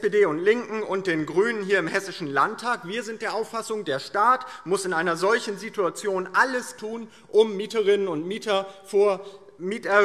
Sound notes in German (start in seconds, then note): none